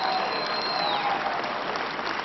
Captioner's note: applause